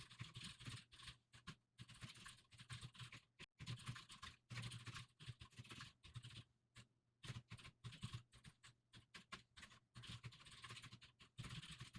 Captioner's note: typing sounds